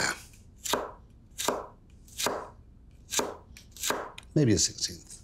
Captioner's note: knife chopping